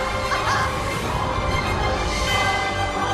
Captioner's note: laughs